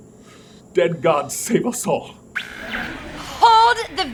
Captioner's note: static